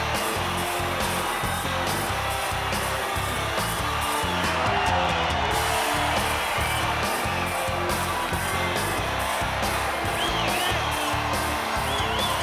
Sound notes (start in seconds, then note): 4.3 crowd cheering